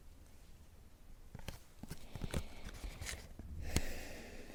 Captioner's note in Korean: 한숨